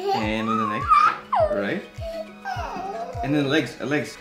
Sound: Jasmine laughing

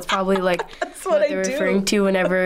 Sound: laughs

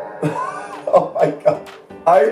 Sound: laughing

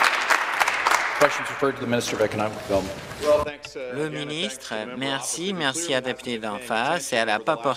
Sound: some Applause

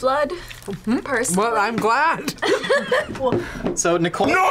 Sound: both laugh

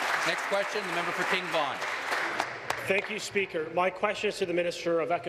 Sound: applause

